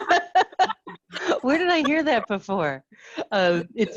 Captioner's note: students laugh; laughs